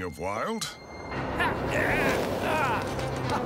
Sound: grunting

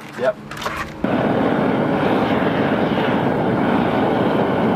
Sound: fire roaring

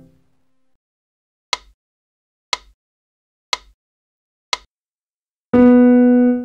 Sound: metronome

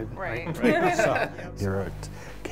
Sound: laughs

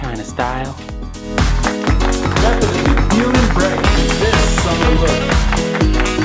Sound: applause

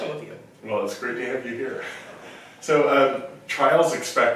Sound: laughs

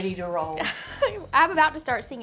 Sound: laughs

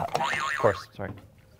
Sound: boing sound

